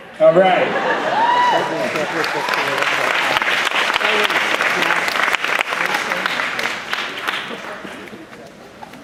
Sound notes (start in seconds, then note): 1.4 applause